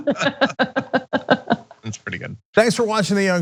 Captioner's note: laugh